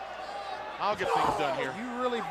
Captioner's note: crowd chatter